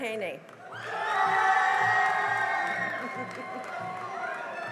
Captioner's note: cheering and applause